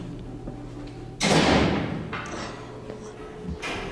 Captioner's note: clang